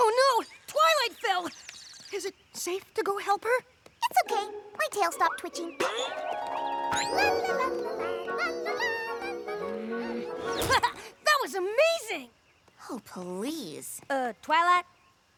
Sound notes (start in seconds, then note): 0.0 tweet!; 6.0 boing!; 9.9 groans; 10.9 laughs